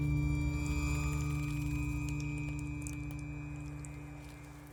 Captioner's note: tense pensive music; blood dripping